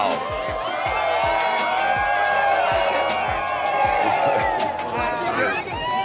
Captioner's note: crowd applauding and cheering